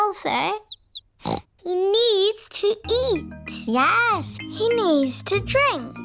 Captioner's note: snorts